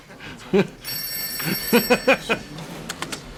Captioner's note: telephone rings again